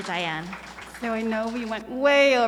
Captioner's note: audience applauding